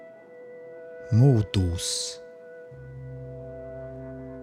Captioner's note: german